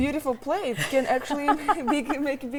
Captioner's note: laughs